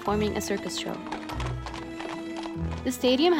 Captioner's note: horses Galloping